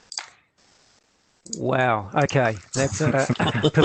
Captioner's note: all laugh